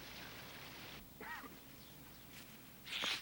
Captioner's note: coughs